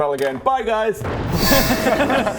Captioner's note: shing!